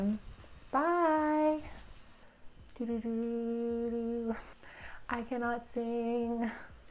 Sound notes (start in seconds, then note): 0.8 in singsongy voice